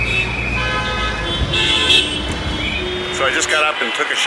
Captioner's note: horns blowing